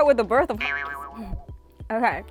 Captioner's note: boinging